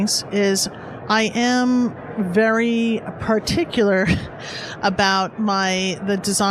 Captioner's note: laughs